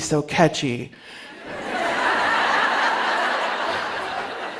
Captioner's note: laughter